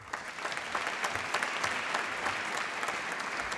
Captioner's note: applause